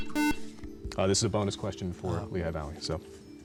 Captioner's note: buzzer